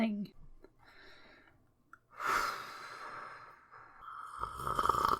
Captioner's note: hefty Sigh